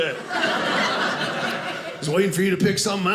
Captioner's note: audience laughing